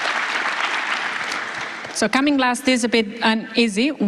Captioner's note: applause